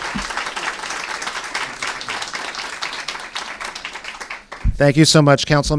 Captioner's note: applause